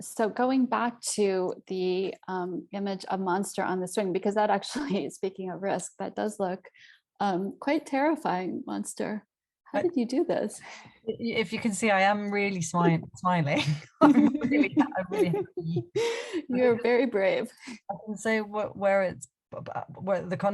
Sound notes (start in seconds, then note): 13.6 both chuckle